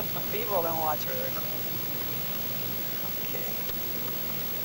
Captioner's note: laughs